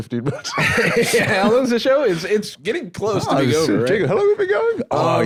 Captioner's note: laughs